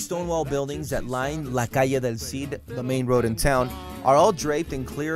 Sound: speaking foreign language

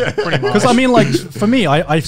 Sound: laughs

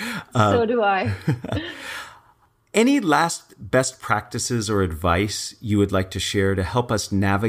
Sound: laugh

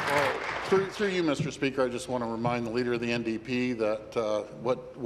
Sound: applause

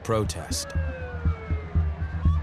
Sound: sirens

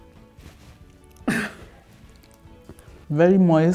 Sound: laughs

